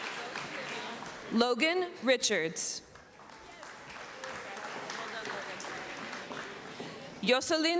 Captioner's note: applause